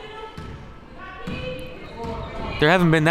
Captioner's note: crowd murmuring